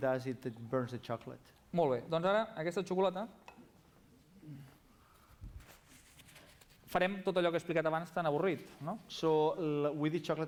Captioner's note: non-english speech